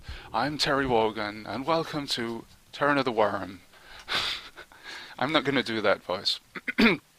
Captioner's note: Bad Wogan voice; normal voice